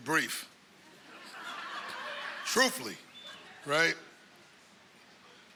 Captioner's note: laughter